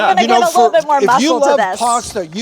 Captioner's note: laughs